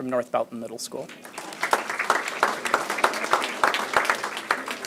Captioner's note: applause